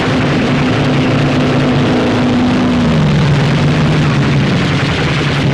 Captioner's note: guns firing